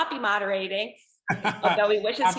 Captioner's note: laughing